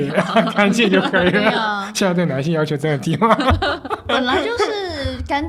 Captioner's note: laughter